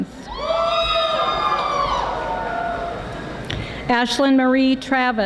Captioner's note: audience applauding